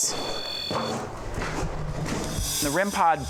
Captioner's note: beeping stops; departing footsteps